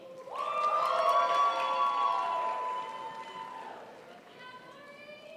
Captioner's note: crowd applauds